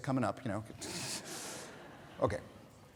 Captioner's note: audience laughing